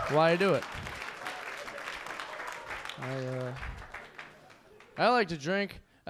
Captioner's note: audience clapping